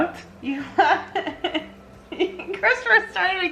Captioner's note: laughter